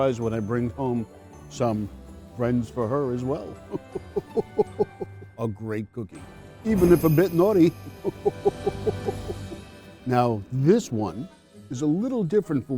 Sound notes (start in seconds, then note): 3.5 Santa chuckles; 6.6 bells ringing; 7.8 Santa chuckles